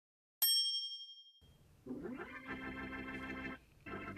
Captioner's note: bell rings